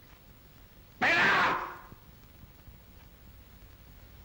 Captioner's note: shouts